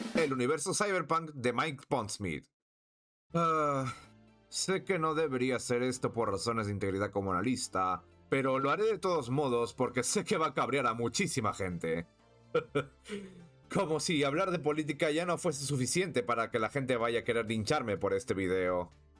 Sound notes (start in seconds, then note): 3.4 sigh; 12.5 laugh